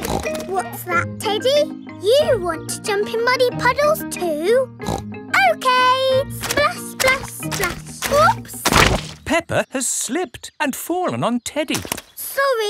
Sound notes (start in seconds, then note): 0.0 snorts; 4.8 snorts